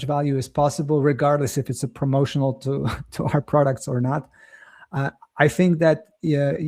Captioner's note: chuckles